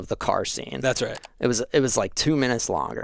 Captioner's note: mouse clicking